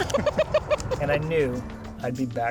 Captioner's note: laughing